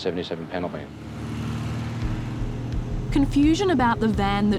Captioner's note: car whooshing; suspenseful music